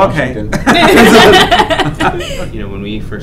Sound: laughs

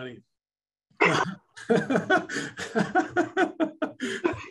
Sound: laugh loudly

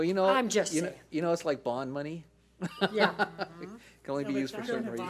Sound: laughs

